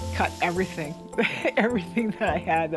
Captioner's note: laughs